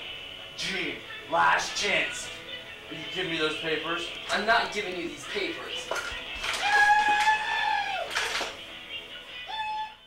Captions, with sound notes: Gene, last chance. Will you give me those papers? I'm not giving you these papers [Wild screaming.]